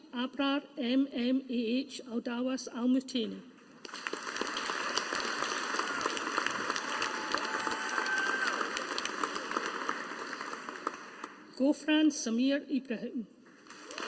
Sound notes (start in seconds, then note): 3.8 audience applauding